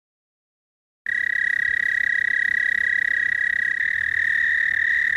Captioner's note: toad trilling